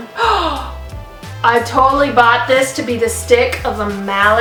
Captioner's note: gasps